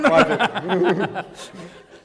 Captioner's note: laughter